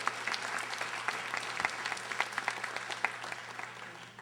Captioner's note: audience applauding